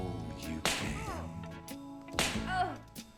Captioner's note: smack; smack